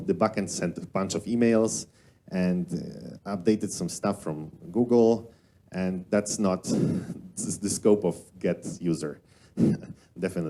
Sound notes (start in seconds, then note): 9.6 chuckles